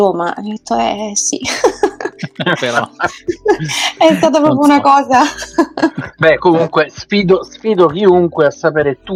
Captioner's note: laughs